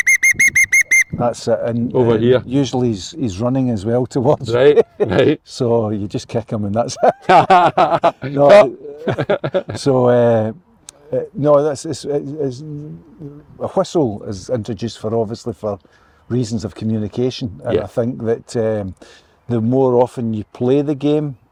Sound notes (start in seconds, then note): 6.9 laughter